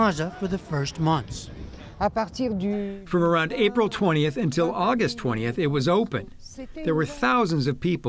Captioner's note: through translator